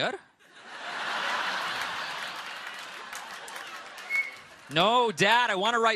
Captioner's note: laughter